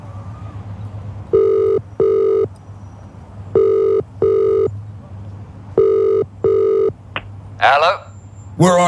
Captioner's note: phone Ringing